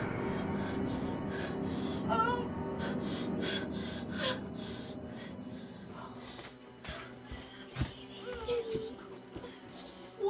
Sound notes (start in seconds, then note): 2.8 breathing heavily